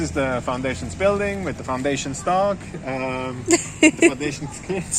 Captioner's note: laughing